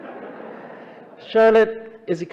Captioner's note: audience laughing